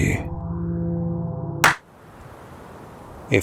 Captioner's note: Wildcard claps once